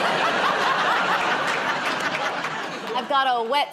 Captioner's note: laughter